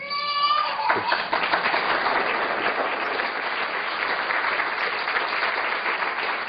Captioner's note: laughter